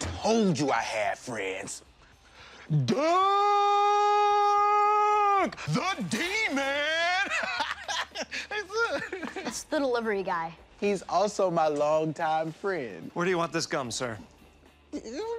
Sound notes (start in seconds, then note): 6.0 laughs